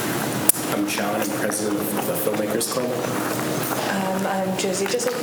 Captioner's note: faintly speaking